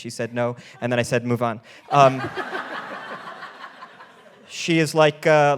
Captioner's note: all laughing